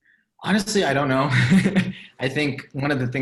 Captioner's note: laughs